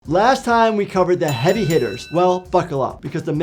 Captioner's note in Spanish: sonido de campanas